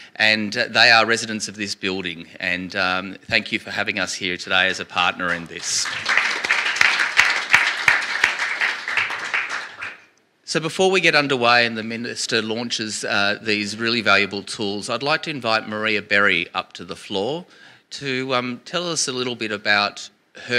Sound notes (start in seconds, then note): 5.2 applause